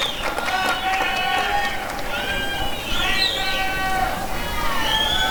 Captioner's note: applause and cheering